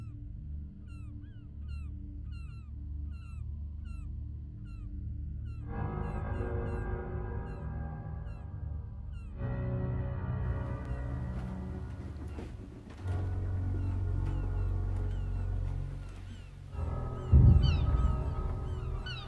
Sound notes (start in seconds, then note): 0.2 ominous music continues; 2.9 gulls squawking; 6.0 foreboding music; 10.6 foreboding music continues; 15.7 gulls squawking